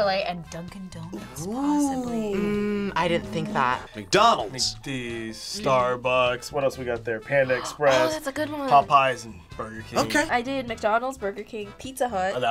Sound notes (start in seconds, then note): 7.5 gasps